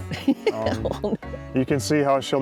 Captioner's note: laughs